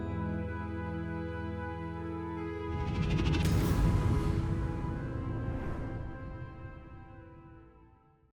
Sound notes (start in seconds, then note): 0.0 tranquil music; 2.8 logo swishes